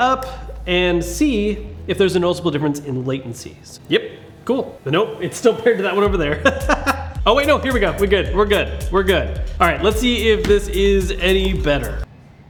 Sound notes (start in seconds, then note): 6.0 laughs